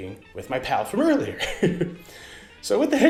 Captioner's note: laughs